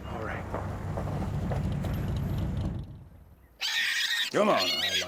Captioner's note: car engine stopping; pig squealing